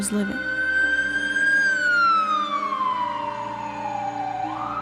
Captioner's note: sirens blaring